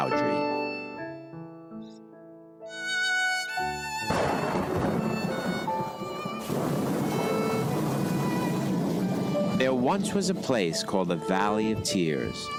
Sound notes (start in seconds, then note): 4.0 thunder crashes